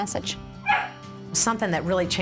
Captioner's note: dog barking